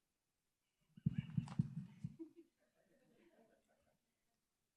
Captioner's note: chuckles